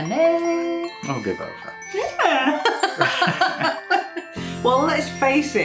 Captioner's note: laffin